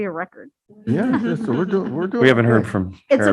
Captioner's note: board members chuckling